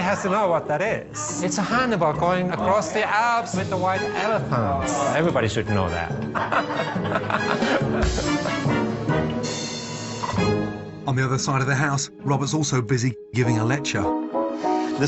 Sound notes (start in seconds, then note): 6.2 laughing; 6.5 playful music